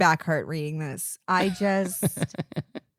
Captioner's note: giggling